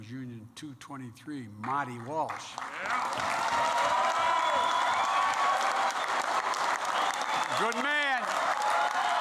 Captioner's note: applause